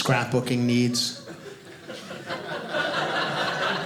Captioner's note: audience laughing